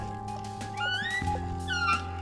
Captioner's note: squeak